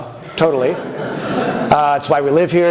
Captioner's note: audience chuckles